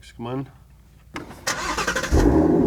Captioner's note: engine starts; engine revs